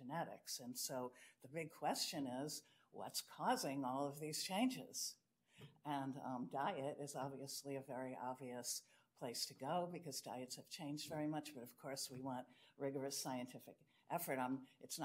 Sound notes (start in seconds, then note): none